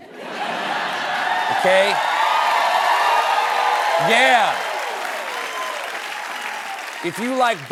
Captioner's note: laughter; cheering